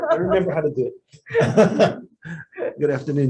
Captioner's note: members laughing